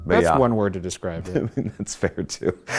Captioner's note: laughs